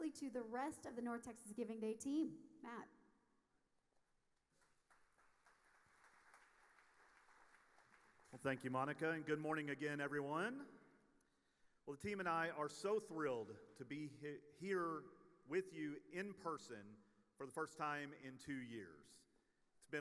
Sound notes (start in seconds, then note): 4.6 audience applauding